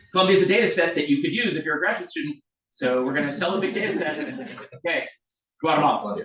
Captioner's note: audience laughs